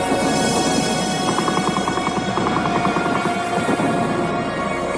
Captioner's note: artillery blasting